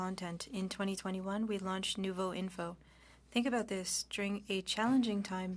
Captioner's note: speaking French